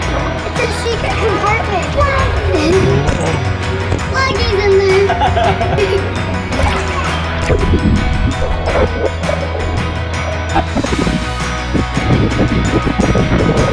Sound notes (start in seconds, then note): 5.0 laughs; 7.5 upbeat music continues